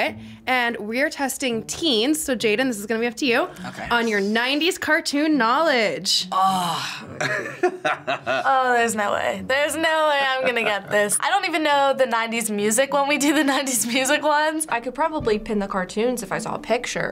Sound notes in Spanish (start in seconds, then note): 6.4 gimiendo; 7.1 riendo